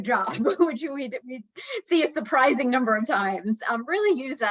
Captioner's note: chuckling